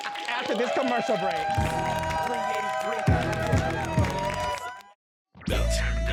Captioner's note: all cheering and laughing; r&b music playing